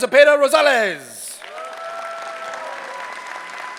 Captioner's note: cheering